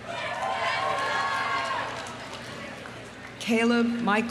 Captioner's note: audience cheering; audience applauding